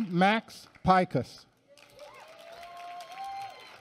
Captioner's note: applause